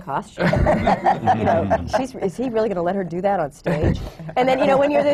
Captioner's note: laughter